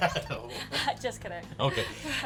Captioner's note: chuckles; laughs